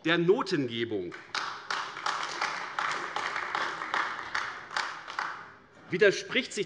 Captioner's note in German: Beifall AfD